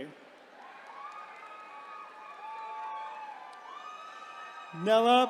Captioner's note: attendees cheering